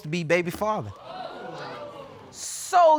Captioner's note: audience exclaiming